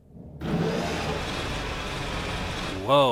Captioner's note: motors spin aggressively